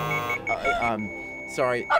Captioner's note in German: Maschinenton